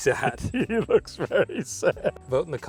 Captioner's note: laughing